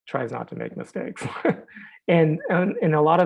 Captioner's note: laughs